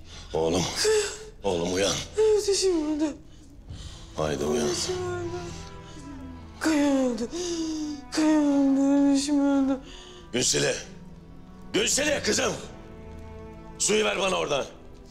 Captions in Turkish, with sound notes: -Oğlum! -Kaya... -Oğlum uyan! -Evdaşım öldü. -Haydi uyan! -Evdaşım öldü. Kaya öldü... [Ağlıyor] Kaya öldü. Evdaşım öldü. Günseli! Günseli, kızım! Suyu ver bana ordan!